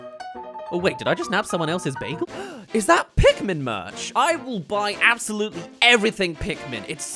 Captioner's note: gasp